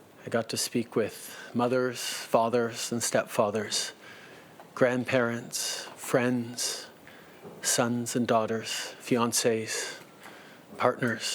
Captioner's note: speaking French